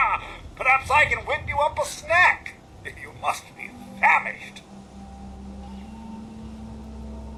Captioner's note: laughs